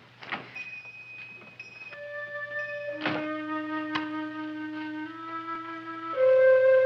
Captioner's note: bell ringing; placid music